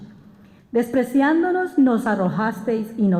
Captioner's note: speaking spanish